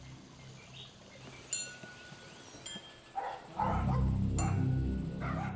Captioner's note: wind chime clanging; dogs barking